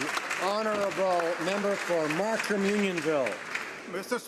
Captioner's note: speaking native language